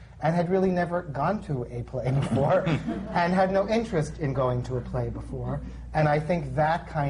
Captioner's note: laughter